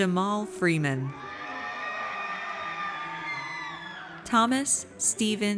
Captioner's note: audience cheers